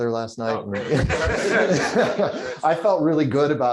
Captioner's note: laughter